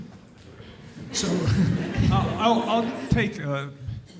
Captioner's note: audience chuckles